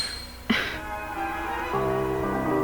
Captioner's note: annoyed sigh